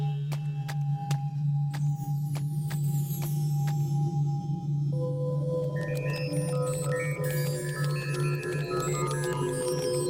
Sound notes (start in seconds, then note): 0.0 tense music; 5.3 electronics beeping